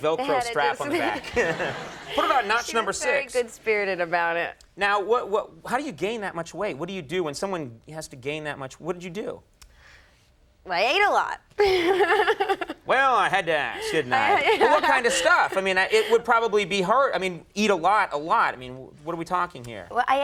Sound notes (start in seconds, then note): 11.6 marisa chuckles